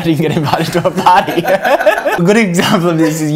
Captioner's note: laughs loudly